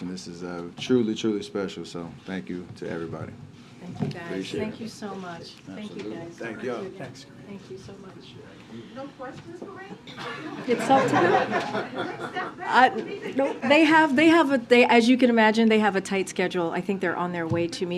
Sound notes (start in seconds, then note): 10.3 laughter; 10.3 laughs